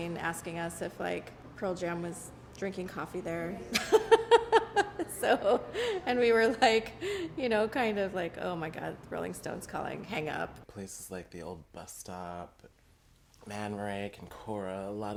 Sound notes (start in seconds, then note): 3.7 laughs